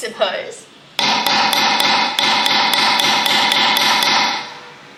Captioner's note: hammer banging sound